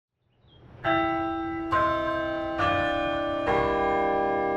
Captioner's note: bell chiming